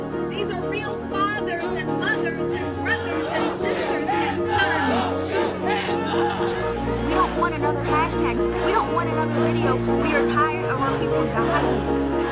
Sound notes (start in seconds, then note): 4.8 a crowd chants "Hands up, don't shoot"